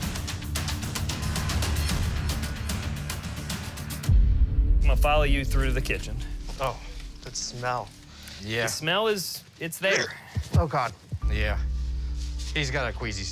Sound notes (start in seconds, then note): 9.9 gags